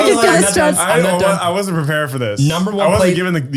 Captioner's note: all clamoring